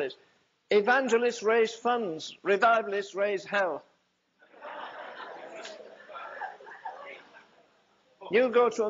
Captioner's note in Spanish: risas